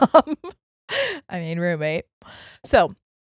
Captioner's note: giggles quickly